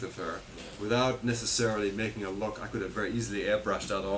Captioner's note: none